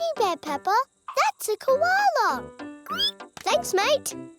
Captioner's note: squeals